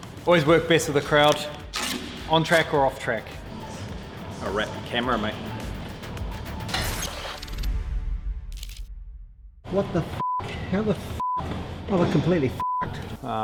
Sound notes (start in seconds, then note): 12.6 beep